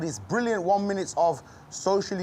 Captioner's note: none